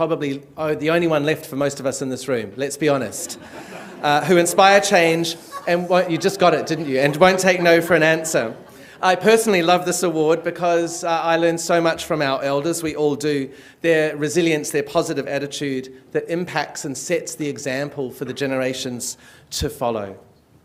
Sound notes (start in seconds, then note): 5.3 laughter